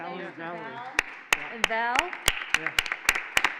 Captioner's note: applauding